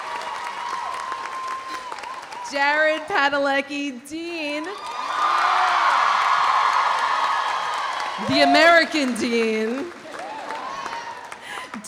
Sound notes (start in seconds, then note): 0.0 audience applauding; 0.0 audience cheering; 4.7 audience applauding; 4.7 audience cheering; 10.1 audience laughs